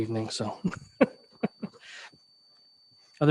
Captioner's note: laughs hilariously